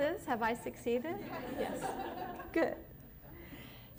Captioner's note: laughter